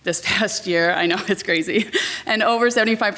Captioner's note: laughs